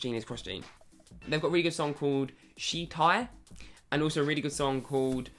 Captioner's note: foreign language